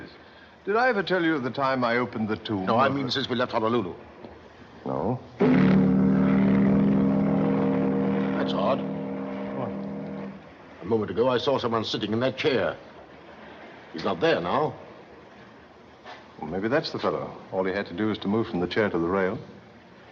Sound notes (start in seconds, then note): 5.4 horn Blowing